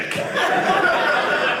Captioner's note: audience laughing